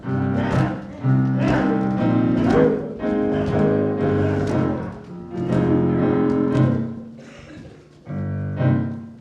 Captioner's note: noise of animals marching together